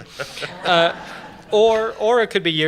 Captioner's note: laughter